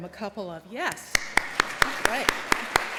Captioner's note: applause